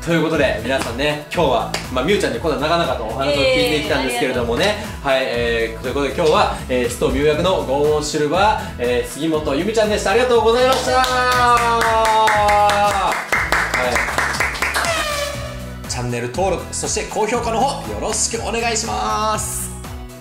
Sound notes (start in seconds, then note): 10.6 applause